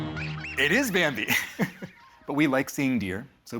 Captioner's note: laughs